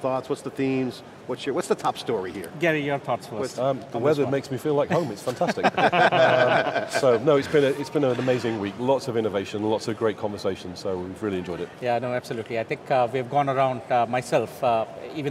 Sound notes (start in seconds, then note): 4.9 all laughing